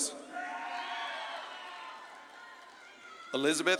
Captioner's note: audience claps and cheers